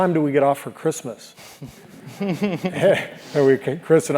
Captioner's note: laugh